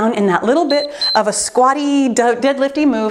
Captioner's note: timer beeps